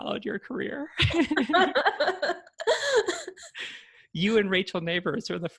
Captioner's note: laughter